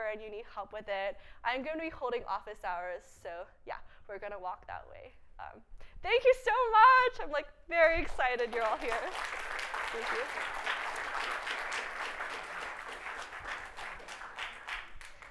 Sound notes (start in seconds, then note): 8.1 audience clapping